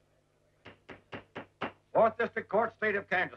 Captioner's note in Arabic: ضربات المطرقة